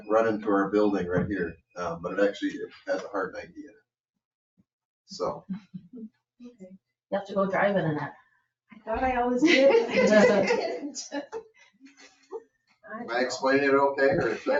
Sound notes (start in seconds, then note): 2.8 chuckles; 9.4 members laughing